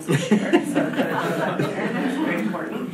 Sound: drowned by laughing; audience laughing

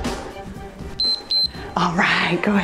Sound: timer beeps

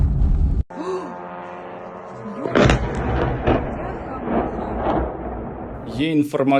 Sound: explosion

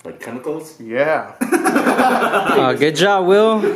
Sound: laughter

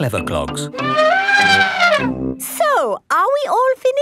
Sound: trumpeting

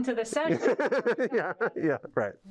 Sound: laughter

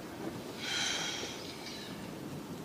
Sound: sighs

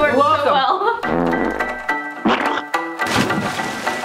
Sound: fart sound effect; squish sound effect; water splash effect

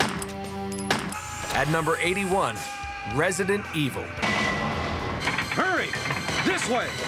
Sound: gunshots

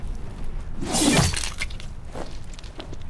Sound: slicing noise

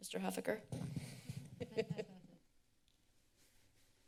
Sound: laughing

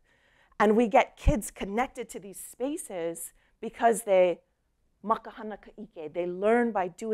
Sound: speaking hawaiian

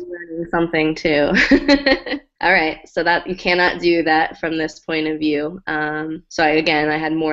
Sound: laugh

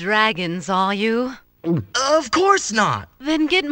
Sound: gulp

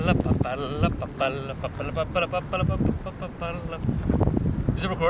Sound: making circus noises

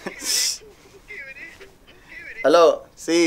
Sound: phone ring - Hookiviri

